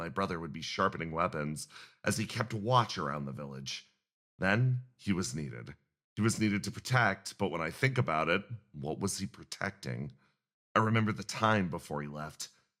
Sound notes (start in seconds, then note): none